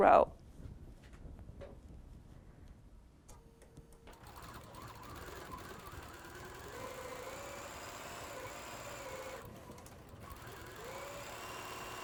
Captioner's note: sewing